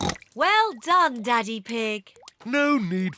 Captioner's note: oinks